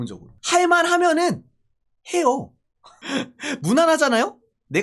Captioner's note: laugh